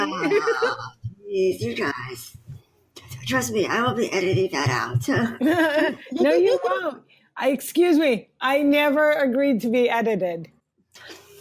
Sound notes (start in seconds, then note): 5.3 laughs; 5.4 chuckles